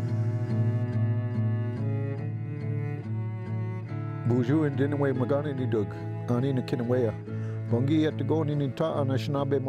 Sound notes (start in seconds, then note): 0.0 emotional instrumental music; 4.4 speaks indigenous language